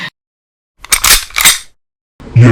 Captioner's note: gun cocking